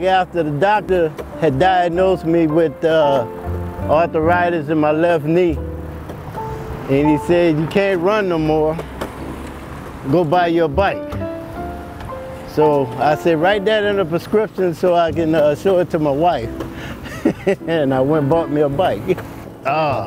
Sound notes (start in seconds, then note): 5.8 soft piano music; 11.6 soft piano music; 16.8 laughs